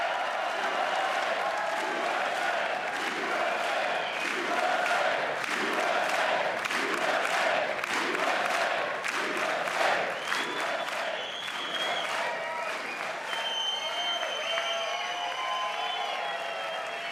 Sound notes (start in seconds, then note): 0.2 applause; 13.3 chanting usa